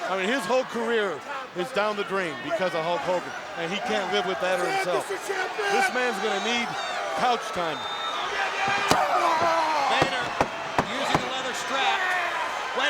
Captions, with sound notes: I mean, his whole career is down the drain because of Hulk Hogan and he can't live with that or himself. (Vader yelling) This man's gonna need couch time. (leather cracking) Vader, using the leather strap. (crowd cheering)